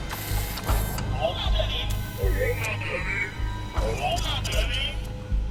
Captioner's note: distorted voice echoing